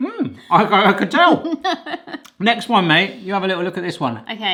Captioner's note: laughter